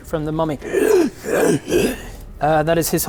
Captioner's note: hrgh hrr hrghh